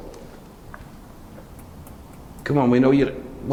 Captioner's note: tapping sound